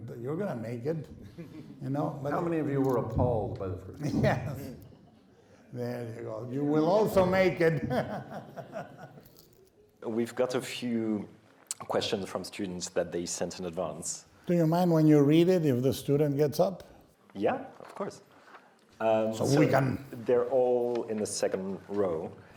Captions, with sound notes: You're gonna make it, you know? - How many of you were appalled by the first? - Yes. There you go you will also make it. [laughing] - We've got a few questions from students that they sent in advance. - Do you mind when you read it if the student gets up? - Yeah, of course. Um, so... - So we can... - They're all In the second row.